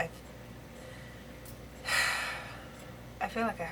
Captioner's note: deep sigh